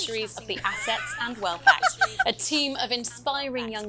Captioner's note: chuckles